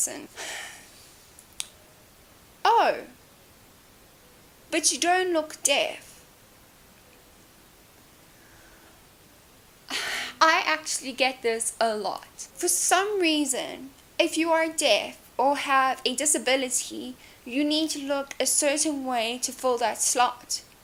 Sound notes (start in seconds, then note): 0.4 lets out a dramatic sigh; 9.9 sighs